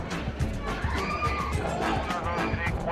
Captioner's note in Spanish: gritos; hombre, por transmisor